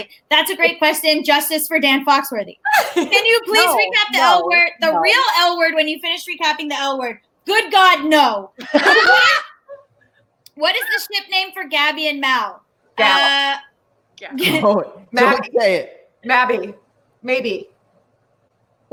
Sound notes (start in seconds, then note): 2.6 laughs; 8.6 all laugh